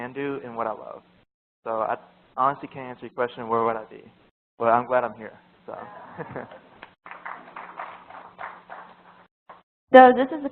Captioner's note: applause